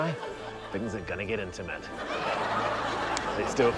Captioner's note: laughter